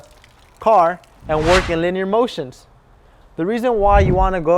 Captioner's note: whoosh; whoosh